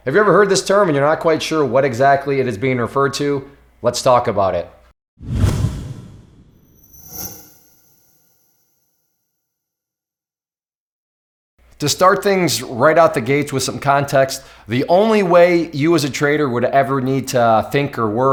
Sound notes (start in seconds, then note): 5.2 air whooshes; 6.7 metal screeches